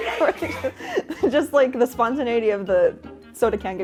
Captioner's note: laughing